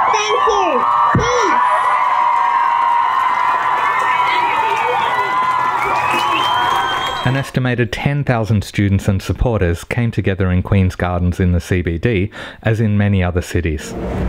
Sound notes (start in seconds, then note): 2.6 cheering